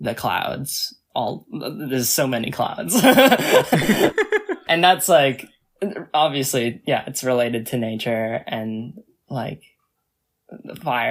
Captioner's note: both laugh